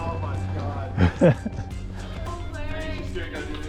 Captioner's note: laughs